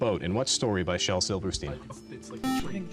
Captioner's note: beep